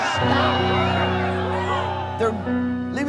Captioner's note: cheers and applause